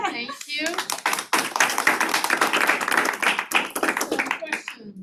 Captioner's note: applause